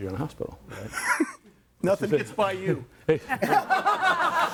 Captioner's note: group laughs; laughs